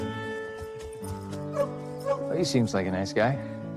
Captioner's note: barking